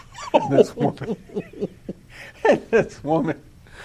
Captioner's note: laughter